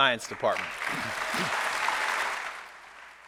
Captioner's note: applause